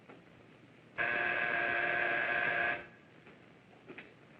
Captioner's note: buzzing